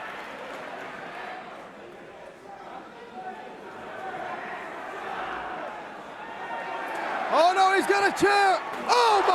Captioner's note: crowd chatter